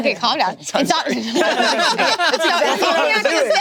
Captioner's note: group laughing